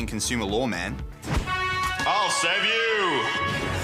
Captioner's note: deep voice